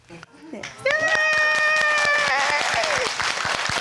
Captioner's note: all applauding and cheering